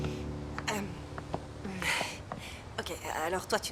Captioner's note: chuckling